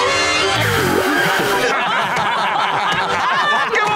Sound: laughing

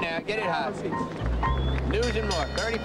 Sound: bell rings

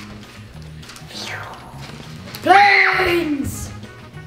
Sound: flying sound effects

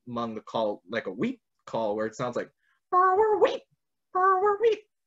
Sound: vocalizes

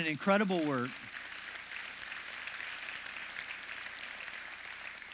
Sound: congregation claps

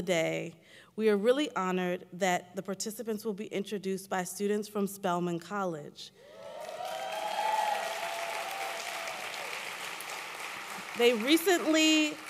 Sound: applause

